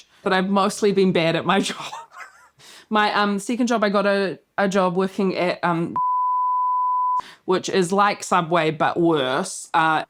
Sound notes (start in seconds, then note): 1.9 laughs; 5.9 beep